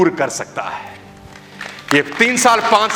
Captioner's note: rounds of applause